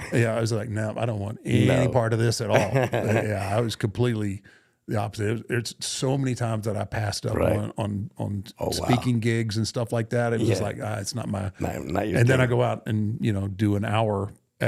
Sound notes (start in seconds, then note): 2.4 Rey laughing